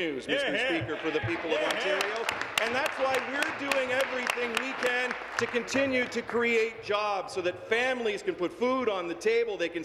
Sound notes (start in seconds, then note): 4.8 some Applause